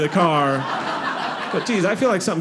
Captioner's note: audience laughing